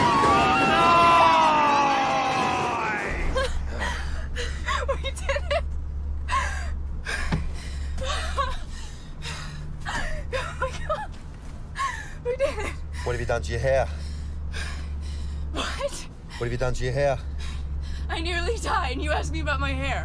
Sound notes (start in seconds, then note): 3.3 laughing